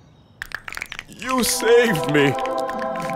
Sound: bones cracking

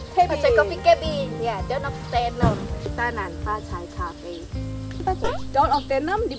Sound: in mandarin

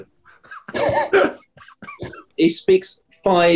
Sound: sniggering

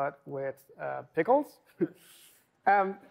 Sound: laughter

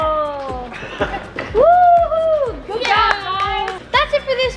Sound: cheering

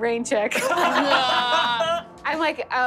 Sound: laughing

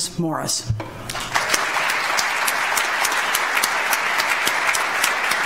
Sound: audience applauds

